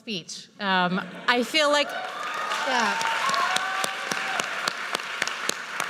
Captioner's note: audience cheers and applauds